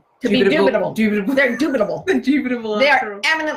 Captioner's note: laughs